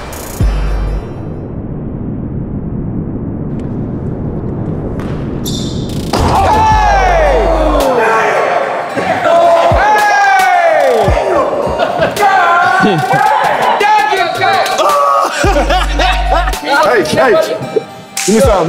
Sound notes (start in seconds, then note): 7.6 participants cheering